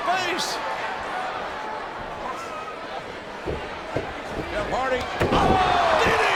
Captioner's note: audience chattering